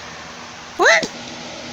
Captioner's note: screams